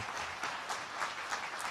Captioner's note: applause